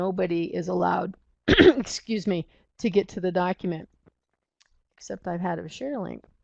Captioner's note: clears throat